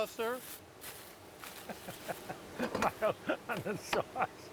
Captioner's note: laughing